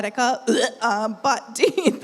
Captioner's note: mimics gagging